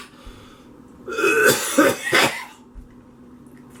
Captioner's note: coughing continues